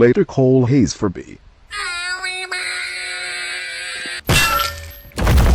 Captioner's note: Noo-Loo Screaming